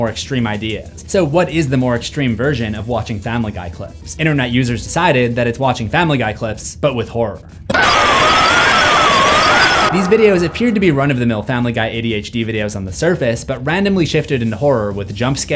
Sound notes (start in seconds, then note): 7.7 distorted scream